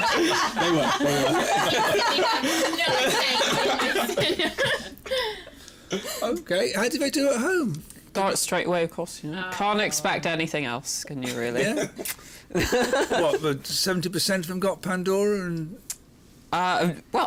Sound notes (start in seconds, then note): 12.6 chuckles